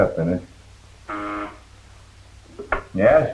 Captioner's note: buzzer rings